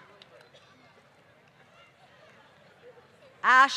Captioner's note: applause